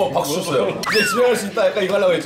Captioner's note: excited